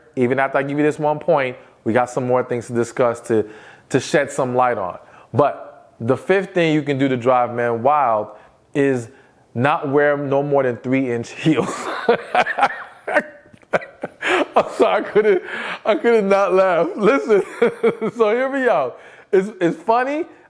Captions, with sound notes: Even after I give you this one point we got some more things to discuss to shed some light on. But the fifth thing you can do to drive man wild is not wear no more than three inch heels. (Laughs) I'm sorry, I could have not laughed. Listen, so hear me out. It is funny